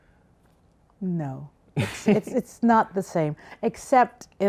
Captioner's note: laughs